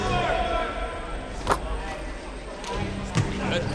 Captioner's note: ball swishing into net